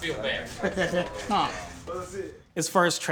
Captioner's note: person laughing